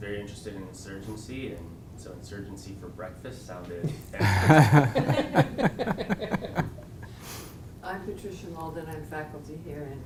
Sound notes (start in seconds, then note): 4.1 laugh